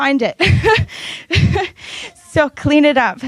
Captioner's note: laughs